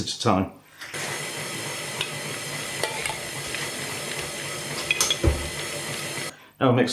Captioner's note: whirrin an chuggin